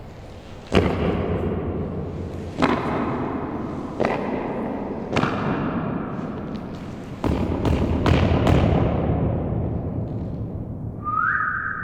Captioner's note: stomps around slowly and then quickly four times, each step echoing; whistles upward in tone